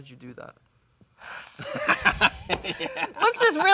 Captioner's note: Zendaya sighs; laughs